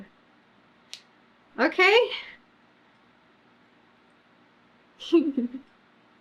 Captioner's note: laughs